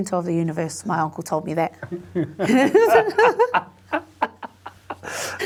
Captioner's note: both laughing